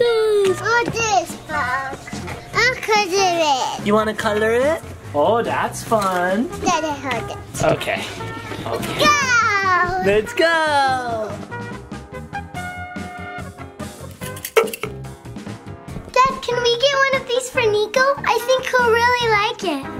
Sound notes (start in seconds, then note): 11.4 upbeat music; 14.1 Slinky pops